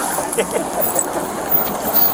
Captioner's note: laughs